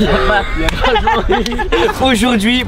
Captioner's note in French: rires